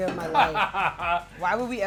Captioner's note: laughing